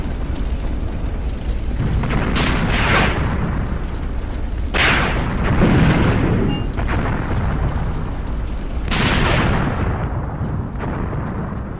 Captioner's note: ammo explosions